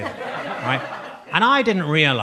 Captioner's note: audience laughs